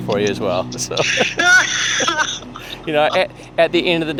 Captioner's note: laughs